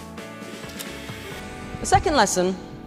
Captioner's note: film reel whirs